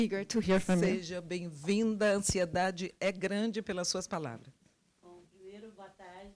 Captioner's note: translator speaking Portuguese; speaking Portuguese